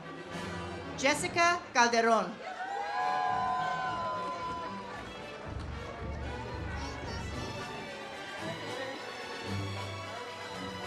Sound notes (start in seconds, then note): 2.4 audience cheers; 7.4 ceremonial music